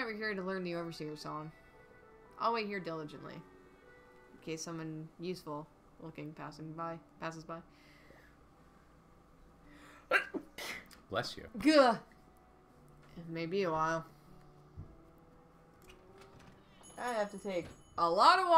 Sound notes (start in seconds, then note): 10.1 sneezes